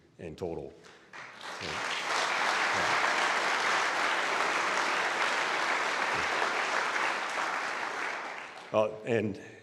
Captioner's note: applause